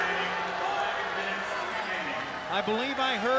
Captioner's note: crowd clamoring